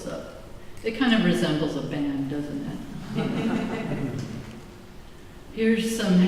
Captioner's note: laughter